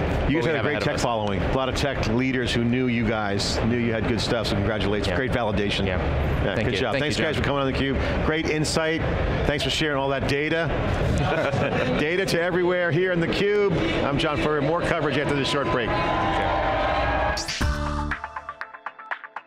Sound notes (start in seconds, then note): 11.1 laughs; 17.0 upbeat music